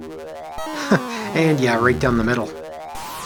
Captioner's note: chuckles